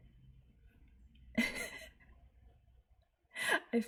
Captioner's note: laughs